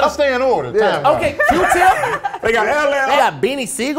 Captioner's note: laughing